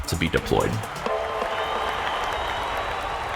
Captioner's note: crowd cheers